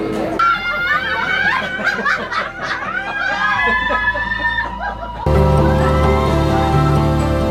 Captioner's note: screams; เสียงกรีดร้อง